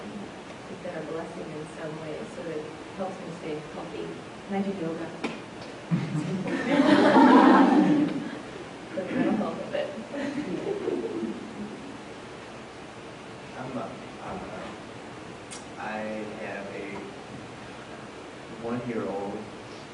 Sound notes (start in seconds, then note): 5.9 laughter